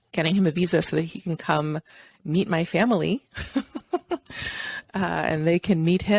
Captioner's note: laughs